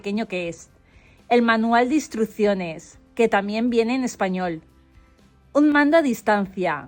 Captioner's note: also in Spanish